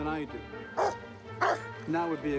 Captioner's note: barking